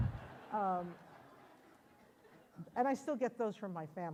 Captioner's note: audience laughs